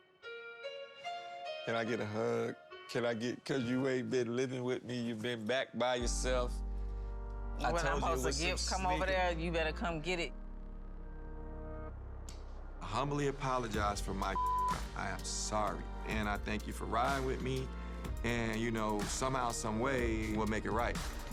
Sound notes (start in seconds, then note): 11.0 gentle music; 14.3 beep